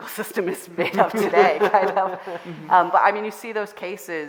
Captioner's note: all laughing